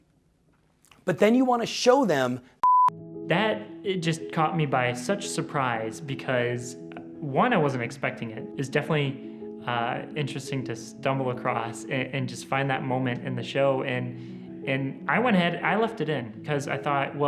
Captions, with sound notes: But then you wanna show them (beep) - That, it just caught me by such surprise, because one I wasn't expecting it, it's definitely interesting to stumble across, and just find that moment in the show, and I went ahead, I left it in, cause I thought,